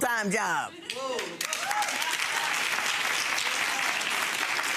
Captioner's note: audience applauding